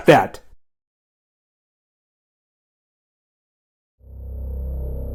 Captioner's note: silence; suspenseful music